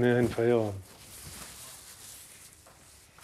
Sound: quiet crackling

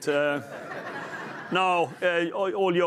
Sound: chuckles

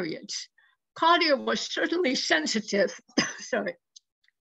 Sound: coughs

